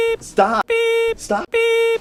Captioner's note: beep